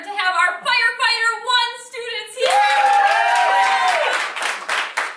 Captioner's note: cheering